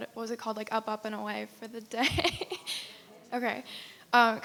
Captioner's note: laughs